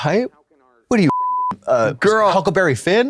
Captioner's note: beep